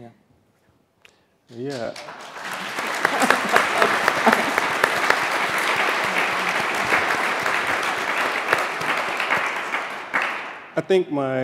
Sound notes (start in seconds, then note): 4.5 applause